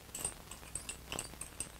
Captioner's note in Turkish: bulaşik tabak çanak sesleri̇